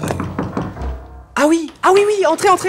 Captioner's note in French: Frappe à la porte